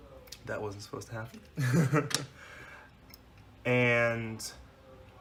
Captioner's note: laughter